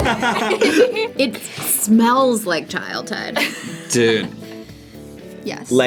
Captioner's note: both laugh; sniffs